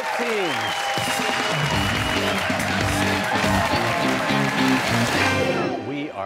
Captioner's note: cheers and applause